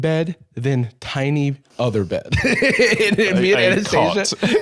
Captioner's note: laughs